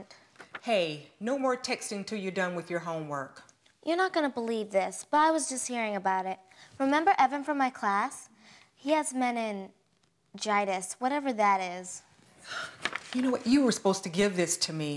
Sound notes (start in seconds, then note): 12.4 sighs